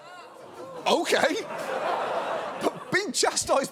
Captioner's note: audience groans